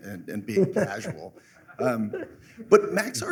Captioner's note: laughter